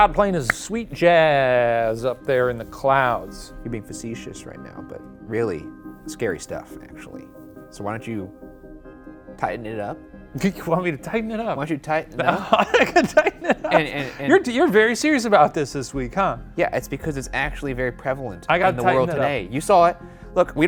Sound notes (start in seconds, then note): 12.2 laughing